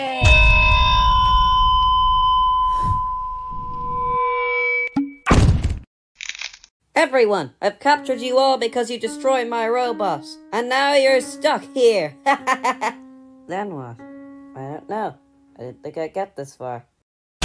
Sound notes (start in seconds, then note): 0.1 loud noise; 5.2 crash!; 12.3 weird Laughter